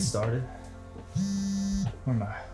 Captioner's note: phone buzzing